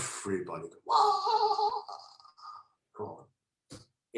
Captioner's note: moaning